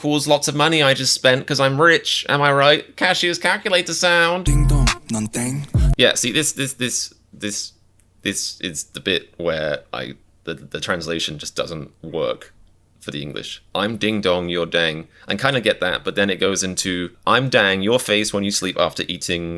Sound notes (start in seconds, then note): 7.6 stuttering